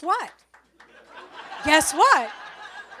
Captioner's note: audience laughs